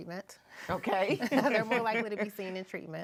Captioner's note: laughing